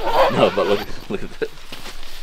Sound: zipper

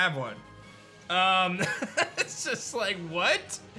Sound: chuckles

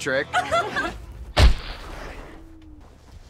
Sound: laughter; thud

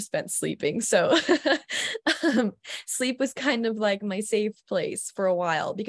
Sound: giggles

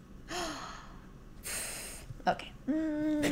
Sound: gasp

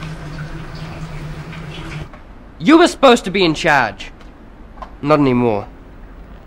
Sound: none

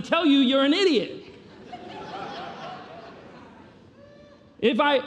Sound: congregation laughing

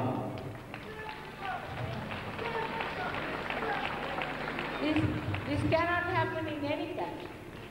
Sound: applause

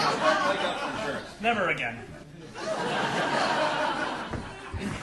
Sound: audience laughing

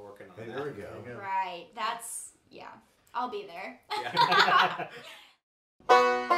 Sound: laughs; upbeat bluegrass music

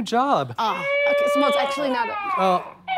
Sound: baby crying

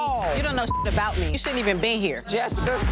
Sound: beep

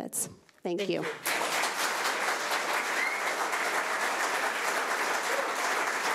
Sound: audience applauding

